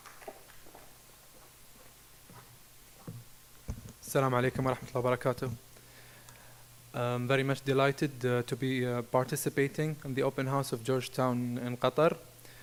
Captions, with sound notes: As-salaam alaikum. (speaking in foreign language) - I'm very much delighted to be participating in the Open House of Georgetown in Qatar.